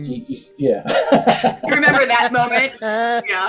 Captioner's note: all laughing